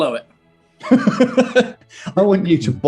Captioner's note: laughing